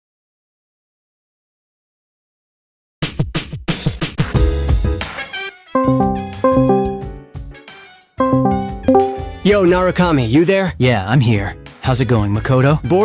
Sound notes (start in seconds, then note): 5.8 Discord calling sound; 8.2 Discord user joined sound